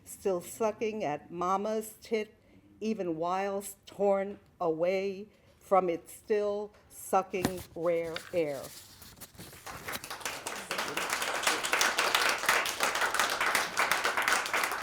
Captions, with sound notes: still sucking at Mama's tit, even whilest torn away from it, still sucking rare air. (applause)